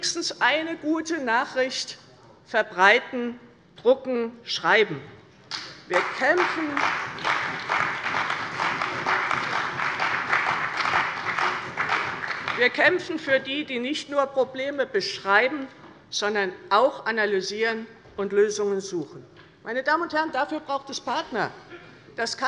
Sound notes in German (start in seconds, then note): 5.5 Beifall bei der CDU und dem BÜNDNIS 90/DIE GRÜNEN